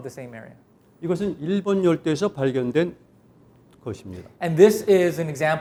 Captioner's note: speaking in Korean